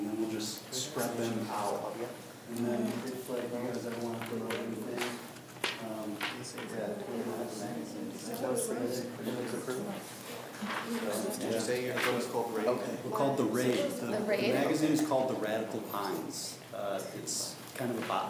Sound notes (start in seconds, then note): 3.0 students talk amongst themselves